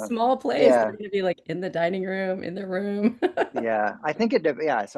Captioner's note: laughs